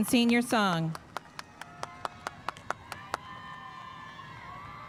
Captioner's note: spectators cheering